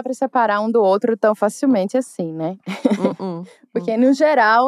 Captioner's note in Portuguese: risos